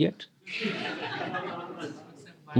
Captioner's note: laughter